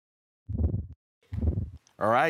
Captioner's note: silent; whoosh